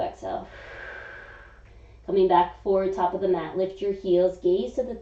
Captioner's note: exhaling